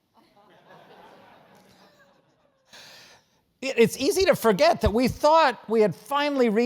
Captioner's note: laugh